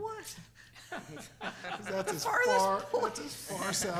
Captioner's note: board members laughing